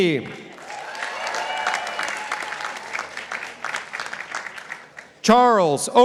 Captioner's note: participants applauding